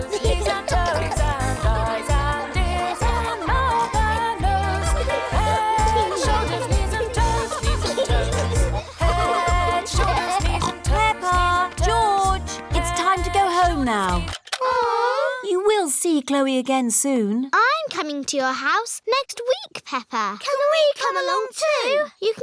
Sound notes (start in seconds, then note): 0.2 giggling; 14.5 music stops; 14.6 all groan